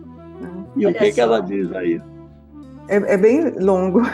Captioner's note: speaks through the computer